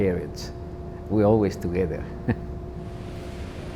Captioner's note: laughs